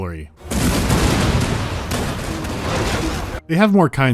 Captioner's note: artillery salvo